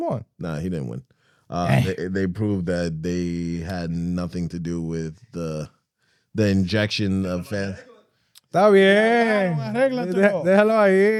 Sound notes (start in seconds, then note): 7.7 speaking In Foreign Language